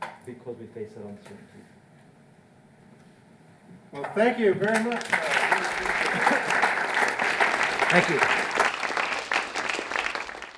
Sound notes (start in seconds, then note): 4.6 audience applauding